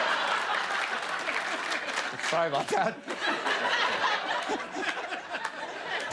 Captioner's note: laughter